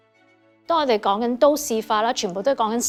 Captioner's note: Cantonese